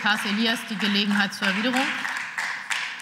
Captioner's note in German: Beifall